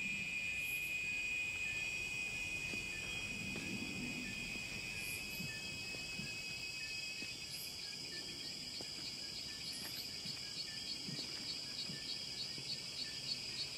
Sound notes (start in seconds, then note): 0.1 insects' noises intensify; 4.1 wind blows